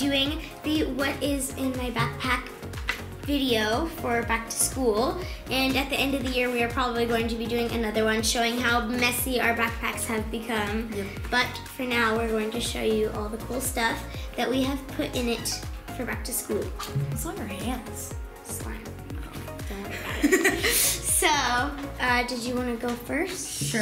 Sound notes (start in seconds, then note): 19.8 laughs